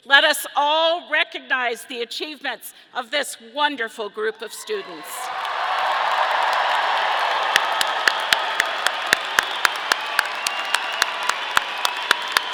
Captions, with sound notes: Let us all recognize the achievements of this wonderful group of students. (audience cheering)